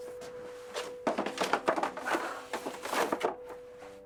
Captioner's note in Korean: 달그락 소리